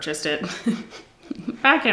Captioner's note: giggles